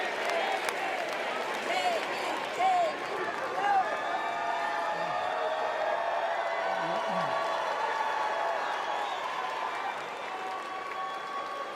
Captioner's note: applause; crowd chanting "jamie"